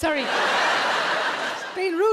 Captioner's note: audience laughs